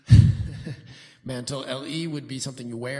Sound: chuckles

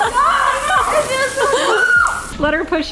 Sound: screaming

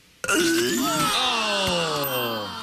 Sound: penguin retches

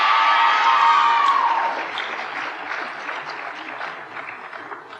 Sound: audience applaud and cheer

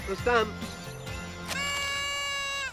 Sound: party horn noise

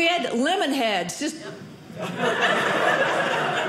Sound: audience laughing

